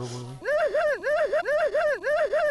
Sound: intense crying

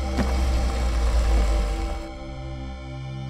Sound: car stops

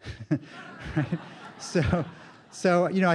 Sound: laughter

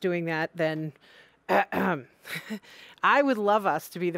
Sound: clears throat

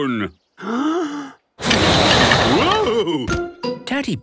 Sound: inhaling deeply; blowing

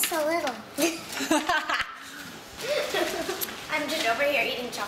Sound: laughter

